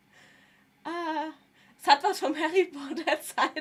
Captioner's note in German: gelächter